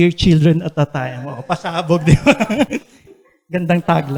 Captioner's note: laughs